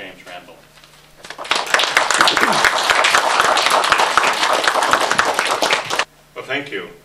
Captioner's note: audience Applauds